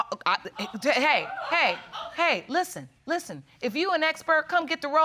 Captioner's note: stammers